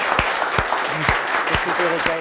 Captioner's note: applause